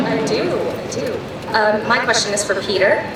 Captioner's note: voiceover